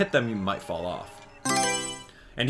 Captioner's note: Mario Selection Sound